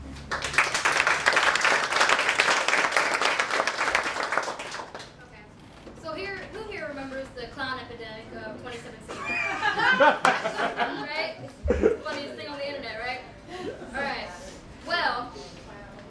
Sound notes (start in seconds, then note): 0.1 applause; 9.1 laughter